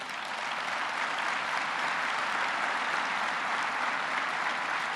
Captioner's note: applause